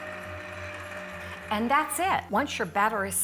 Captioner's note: mixer whirs